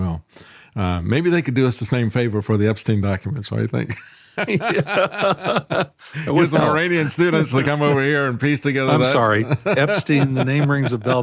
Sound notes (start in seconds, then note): 4.0 laughing